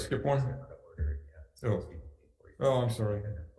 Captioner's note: men converse